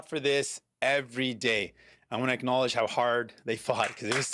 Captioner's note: applause